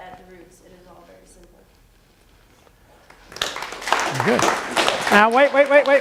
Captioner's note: applause